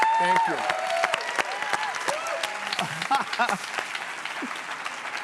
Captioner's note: audience applauds and cheers